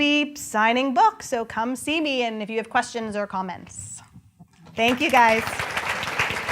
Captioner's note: applause